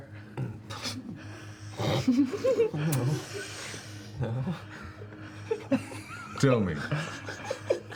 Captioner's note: muffled laughter